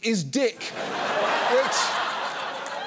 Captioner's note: audience laughs